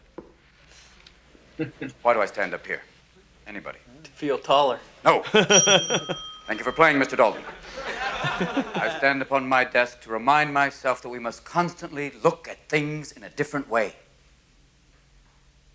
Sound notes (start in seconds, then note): 5.3 rings a bell